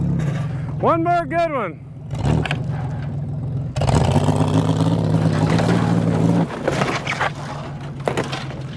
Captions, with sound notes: One more good one. (vehicle engine roar)